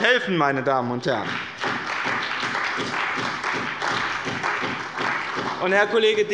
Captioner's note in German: Beifall bei dem BÜNDNIS 90/DIE GRÜNEN und der CDU